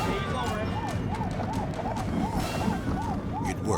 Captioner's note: sirens screaming